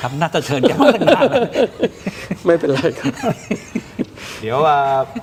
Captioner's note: laughter